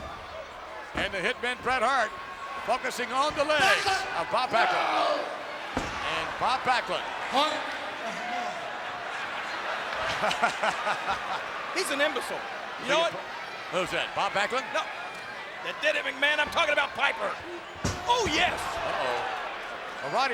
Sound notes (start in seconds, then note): 9.0 Vince laughs